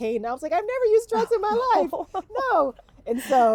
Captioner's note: laughing